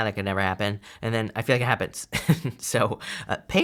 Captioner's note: chuckles